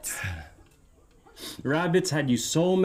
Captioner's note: Max chuckles